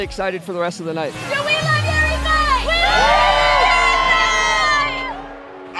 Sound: cheering

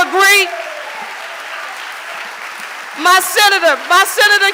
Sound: audience applauding

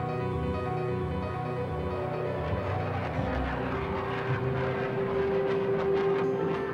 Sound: jet engines

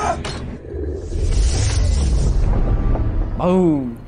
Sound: fwoom

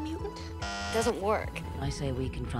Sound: bzzzt

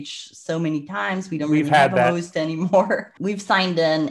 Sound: laughs

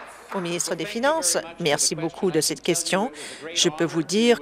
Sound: applause

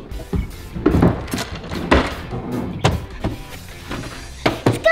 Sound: cabinets shutting; drawer clanging; drawer rattling

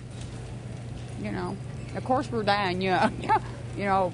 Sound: laughs

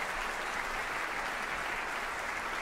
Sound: audience applauding

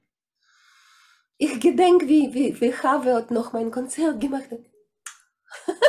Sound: kiss

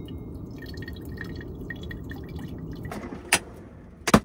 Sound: liquid dripping

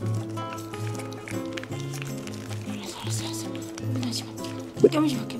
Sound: crunch

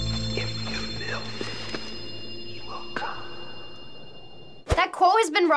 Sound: ghostly voice

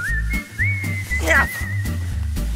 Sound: strained sounds

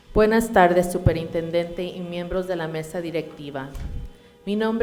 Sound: speaking in Spanish

